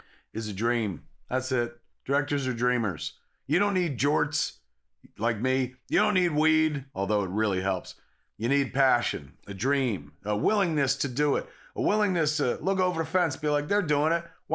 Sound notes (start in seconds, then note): none